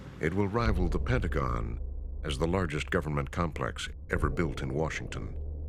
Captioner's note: none